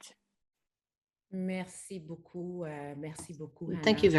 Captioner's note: speaks French